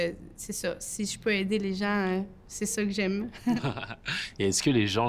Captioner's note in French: rires